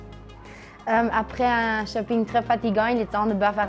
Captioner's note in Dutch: spreken frans